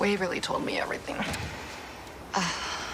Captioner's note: Nicole sighs